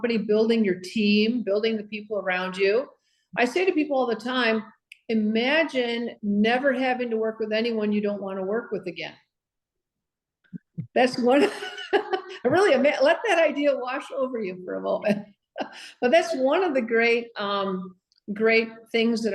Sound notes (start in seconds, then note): 11.2 laughs